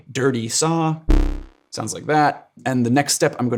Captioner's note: electronic tone sounding